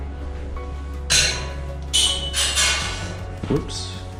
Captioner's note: metal clanks